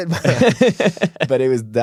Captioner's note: laughs